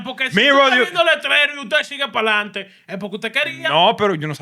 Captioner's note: non-english Speech